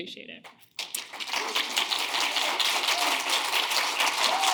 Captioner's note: audience clapping